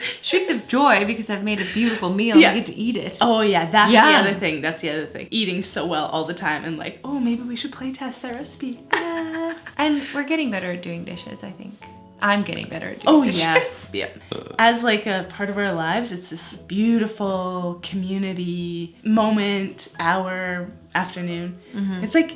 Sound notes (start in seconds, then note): 14.2 burps